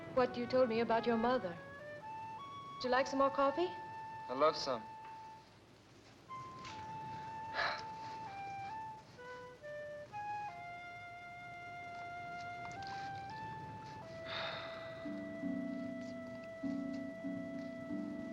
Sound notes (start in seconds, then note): 6.3 eerie music; 14.2 Johnny sighs; 16.0 eerie music